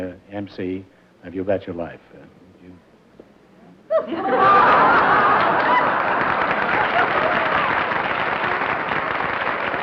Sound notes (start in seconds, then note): 3.9 laughter; 6.2 applause